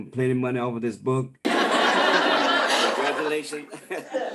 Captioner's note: audience laughs